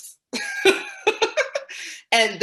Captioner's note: laughing